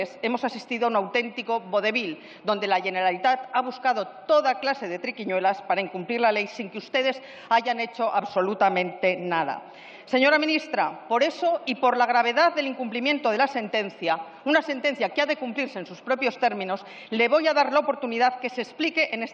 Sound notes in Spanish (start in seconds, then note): none